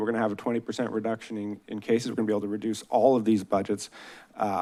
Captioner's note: none